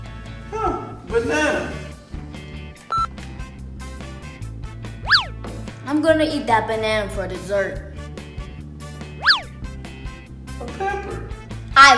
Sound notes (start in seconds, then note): 2.9 beeping; 8.0 lively music